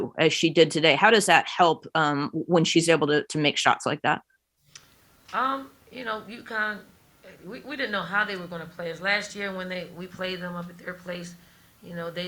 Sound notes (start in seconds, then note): none